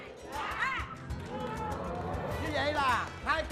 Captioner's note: cheering